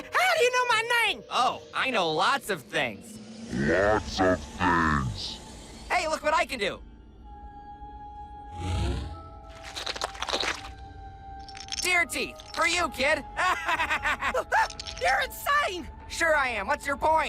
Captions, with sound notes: OH! OH! GRAVITY FALLS, IT IS GOOD TO BE BACK! NAME'S BILL CIPHER. AND I TAKE IT YOU'RE SOME KIND OF LIVING VENTRILOQUIST DUMMY? ( laughs ) I'M JUST KIDDING, I KNOW WHO YOU ARE, GIDEON. WHAT-- WHAT ARE YOU? H-- HOW DO YOU KNOW MY NAME?